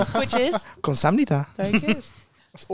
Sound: speaks other language

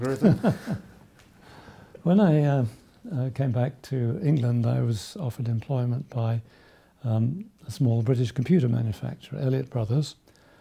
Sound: laughs

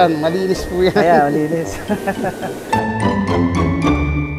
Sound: laugh

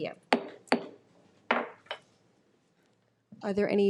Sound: gavel pounds

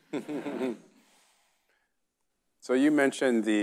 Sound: chuckles; audience laughing

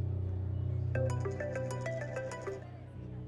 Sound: phone ringing

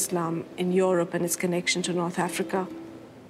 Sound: speaks French

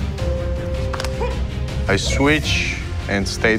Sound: grunting

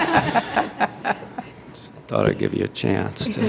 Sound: laughter

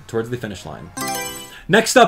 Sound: Mario Selection Sound

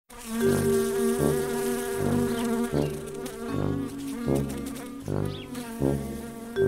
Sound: fly buzzing; sad music

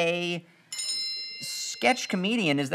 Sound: bell noise

